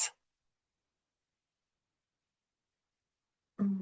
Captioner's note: quiet pause